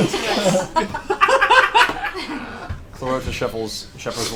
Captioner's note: all laugh